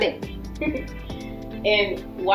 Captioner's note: laughing